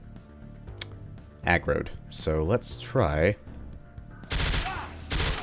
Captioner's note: MAC-10 "quietly" rat-a-tats